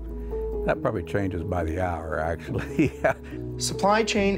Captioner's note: chuckles